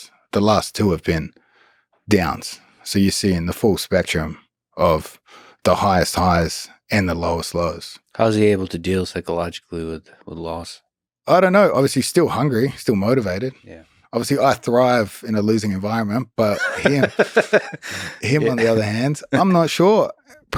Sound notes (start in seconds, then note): 16.4 Lex laughs